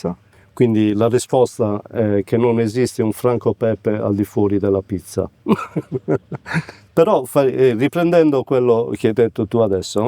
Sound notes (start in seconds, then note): 5.5 laugh